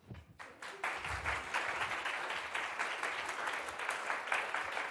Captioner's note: applause